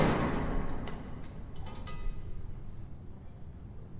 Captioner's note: bang